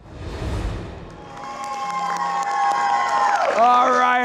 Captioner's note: group cheering